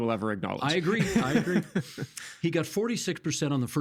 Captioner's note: laughing